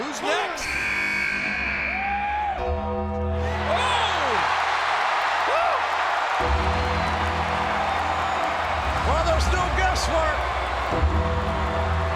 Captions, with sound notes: Who's next? (buzzer sounding) (bell tolls) (crowd cheers) Oh! (crowd cheers) Well, there's no guesswork